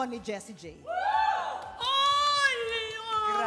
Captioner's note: cheering